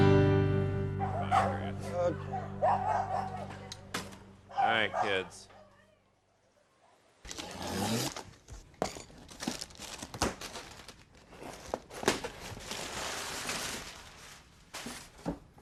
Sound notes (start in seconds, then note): 4.4 dogs barking